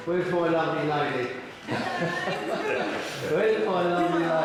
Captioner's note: laughing